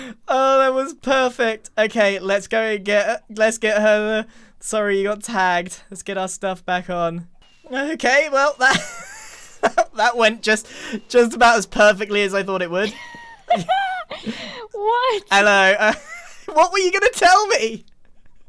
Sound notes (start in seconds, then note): 8.5 laughs; 12.8 laughs